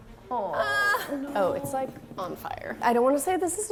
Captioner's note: whimpers